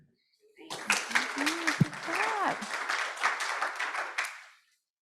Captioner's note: audience clapping